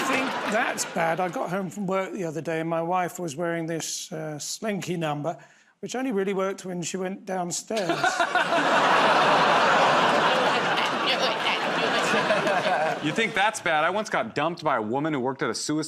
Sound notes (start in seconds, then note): 0.0 laughter; 7.8 laughter